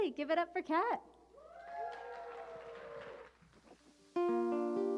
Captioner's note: cheers and applause